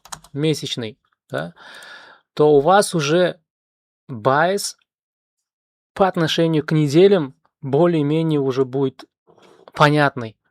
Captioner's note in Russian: тяжело вздыхает